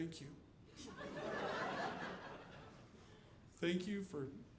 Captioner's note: audience laughing